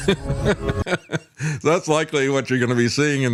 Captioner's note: laughs